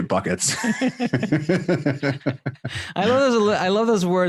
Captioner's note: laughing